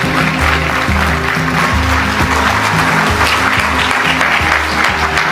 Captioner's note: applause; applause and music